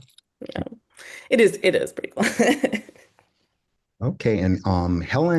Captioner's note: chuckles